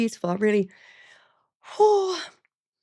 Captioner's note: exhales